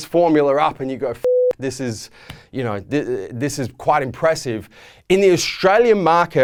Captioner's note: beep